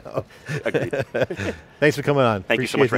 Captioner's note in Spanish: Risas